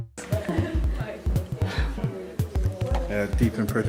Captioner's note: woman laughing